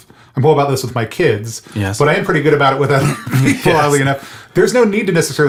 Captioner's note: laughs